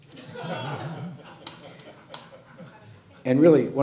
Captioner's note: laughing